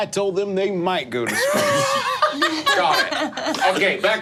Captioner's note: group laughing